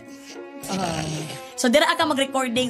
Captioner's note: snorts